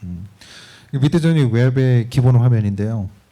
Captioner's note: speaking korean